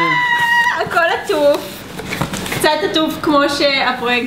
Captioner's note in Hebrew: צועקת